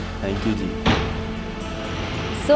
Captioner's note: car door slams